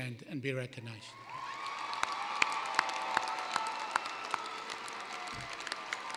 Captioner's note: cheering, applause